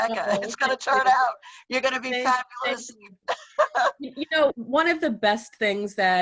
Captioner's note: laughs